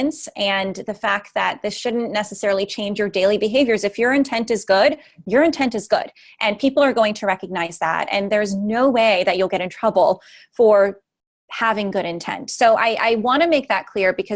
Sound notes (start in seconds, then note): none